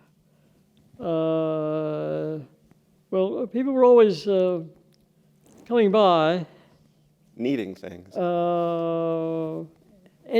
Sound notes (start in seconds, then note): none